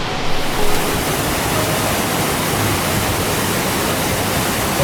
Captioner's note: water crashing